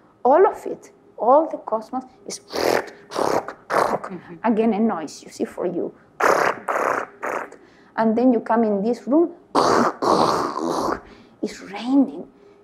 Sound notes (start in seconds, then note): 2.4 trills lips; 6.2 trills lips; 9.5 vocalizes throaty guttural sound